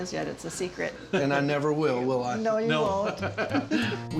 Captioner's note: laughing